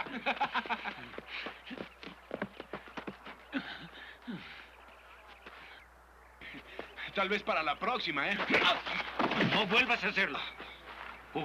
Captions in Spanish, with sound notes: [RESPIRA CON DIFICULTAD] - Tal vez para la próxima, ¿eh? - ¡No vuelvas a hacerlo!